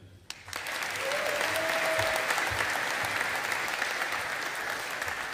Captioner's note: audience applauding